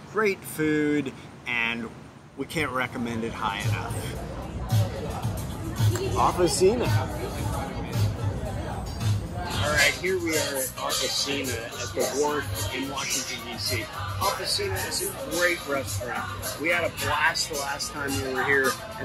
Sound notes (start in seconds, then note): 3.0 people chattering; 3.0 upbeat music